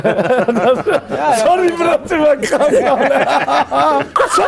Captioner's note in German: Gemurmel, Lachen; Lachen